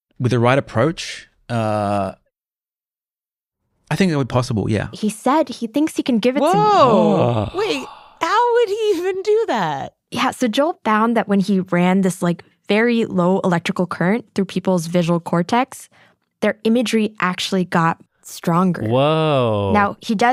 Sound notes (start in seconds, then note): 6.4 gasps